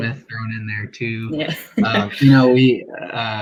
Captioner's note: laughs